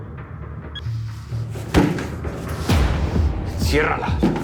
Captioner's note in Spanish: Golpes